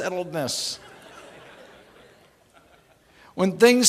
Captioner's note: laughing